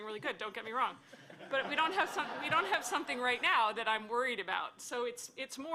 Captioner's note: laughter